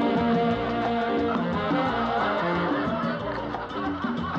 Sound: crowd Laughing, Chattering

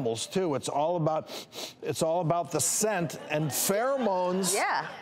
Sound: sniffs

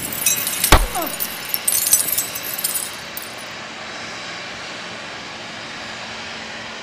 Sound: glass crashing; body thudding; Jon moans

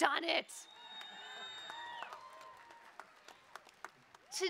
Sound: cheering

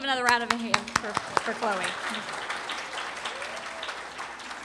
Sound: applause

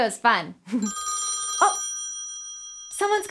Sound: phone ringing

